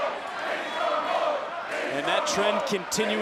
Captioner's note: crowd chants "Big strong boy"